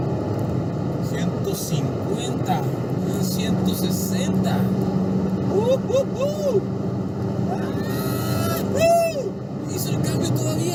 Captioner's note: screams in excitement